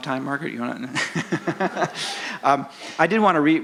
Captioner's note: laughs